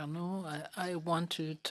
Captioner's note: speaking in French